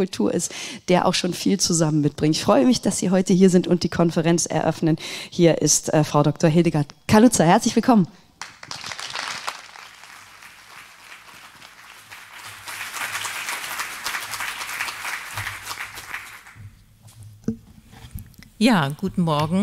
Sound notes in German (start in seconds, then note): 11.9 applaus